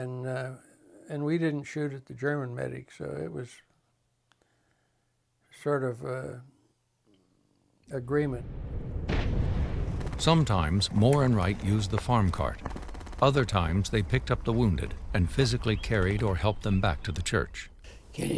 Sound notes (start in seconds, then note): 8.2 loud explosion